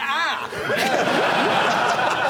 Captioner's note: laughter